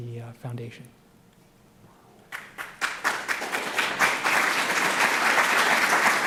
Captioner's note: applause